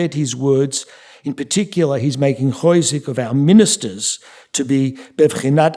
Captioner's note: yiddish; speaking yiddish